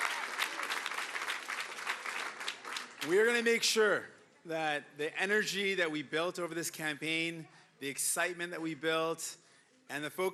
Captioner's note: cheering and Applause